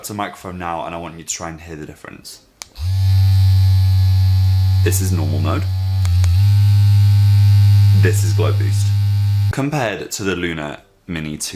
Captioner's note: louder buzzing